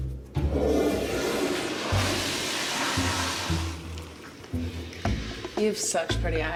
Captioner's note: toilet flushing